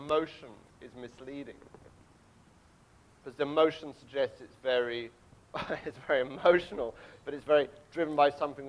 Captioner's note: laughs